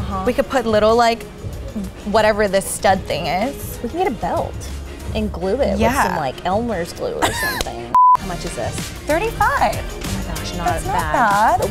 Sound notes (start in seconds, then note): 7.2 laughs; 7.9 beeps